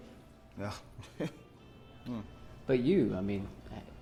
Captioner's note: chuckles